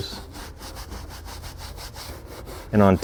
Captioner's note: brush scrubbing